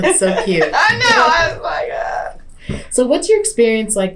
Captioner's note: laughter